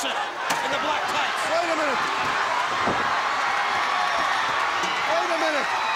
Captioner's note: crowd cheering